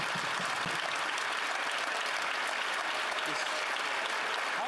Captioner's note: applause